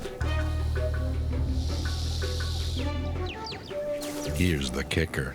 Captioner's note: dramatic music; snake hissing